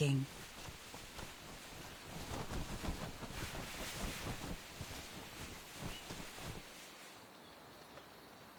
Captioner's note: wings flapping; birds chirping